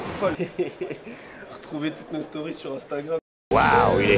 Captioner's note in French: Rire